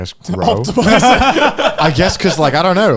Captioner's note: laughing